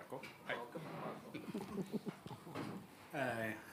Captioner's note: audience laughing